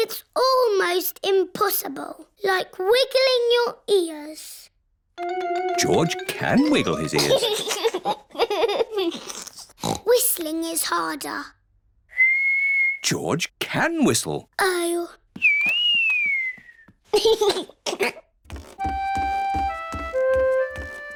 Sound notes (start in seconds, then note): 6.6 giggles; 9.6 snorts; 12.1 whistling; 15.4 whistling and giggling